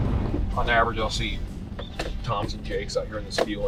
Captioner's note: pat